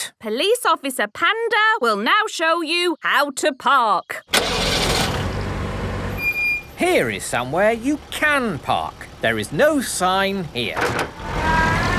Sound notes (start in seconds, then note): 4.3 breaks squeaking; 4.5 car engine starting